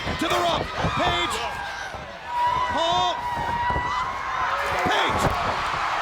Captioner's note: footsteps plodding; footsteps plodding; body thudding